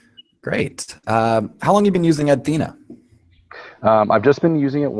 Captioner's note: voiceover